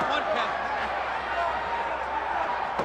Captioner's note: crowd chatter